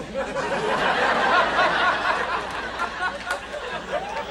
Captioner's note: audience laughs